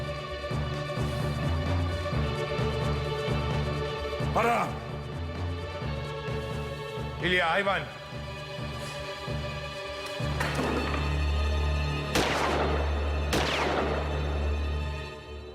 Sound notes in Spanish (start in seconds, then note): 12.0 Disparos